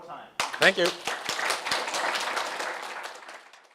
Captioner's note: applause